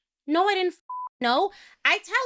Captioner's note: beep